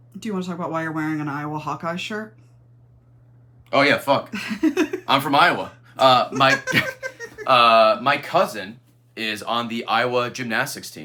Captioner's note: laughs